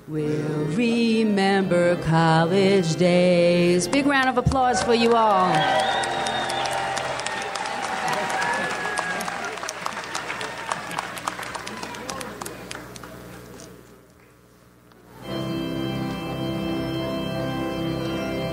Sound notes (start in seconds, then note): 5.7 audience applauds; 15.1 calm organ music